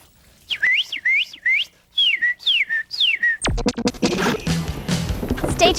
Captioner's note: bird call